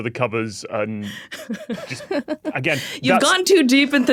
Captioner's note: giggle